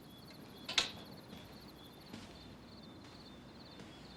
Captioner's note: crickets chirp